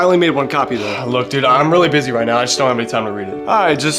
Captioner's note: sighs